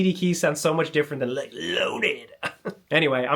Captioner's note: chuckles